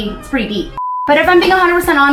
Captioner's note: beep